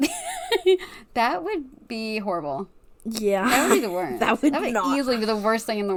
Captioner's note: laughs